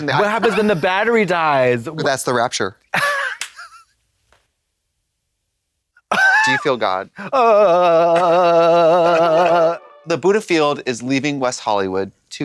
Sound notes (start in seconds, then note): 2.9 Katya giggles and claps; 7.3 Trixie tee-hees; 9.8 bright chime